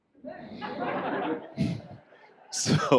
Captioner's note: audience laughs